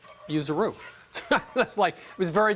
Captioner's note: laughing